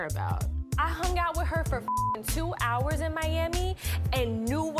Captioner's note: beep